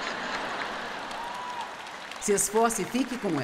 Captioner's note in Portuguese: audiência se alegra